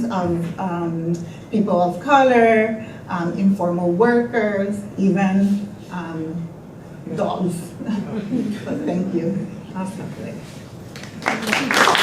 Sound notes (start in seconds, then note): 7.8 group laughter; 10.9 applause